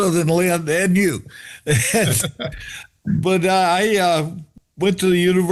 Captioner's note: laughter